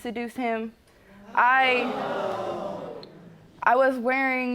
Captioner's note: audience oohing